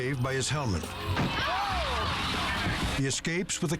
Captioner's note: crowd